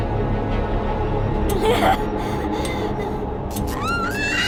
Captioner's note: cackles wildly